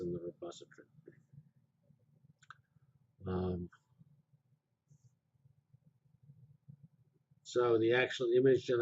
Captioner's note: pause